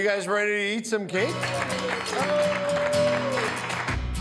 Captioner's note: all applaud